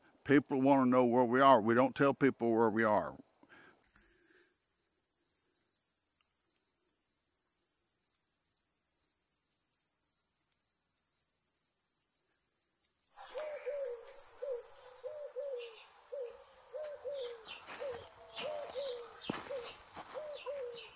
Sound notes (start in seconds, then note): 13.1 birds chirping; 13.1 owl cooing